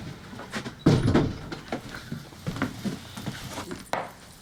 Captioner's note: door closing